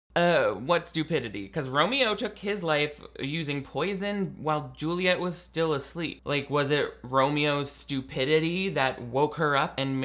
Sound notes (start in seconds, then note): none